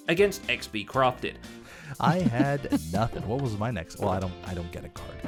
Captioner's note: giggling